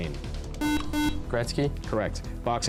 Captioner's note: buzzer